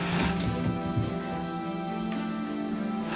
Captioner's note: door jiggles; faint mysterious voices